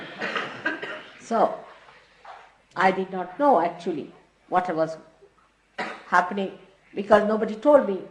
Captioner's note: laughter